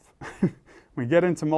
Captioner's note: laugh